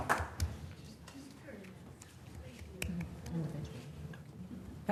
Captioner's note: applause